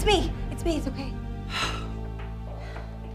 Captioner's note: sighs